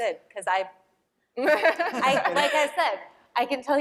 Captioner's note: laughter